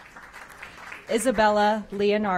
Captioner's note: applause